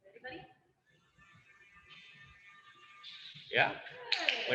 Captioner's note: Dremel buzzing